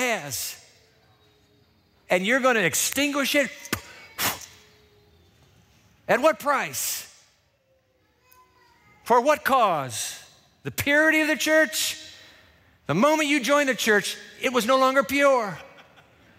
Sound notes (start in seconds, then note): 3.7 blows sharply